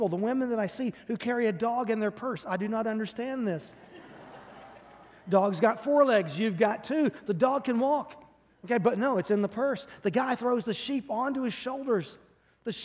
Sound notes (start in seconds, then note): 3.7 congregation laughing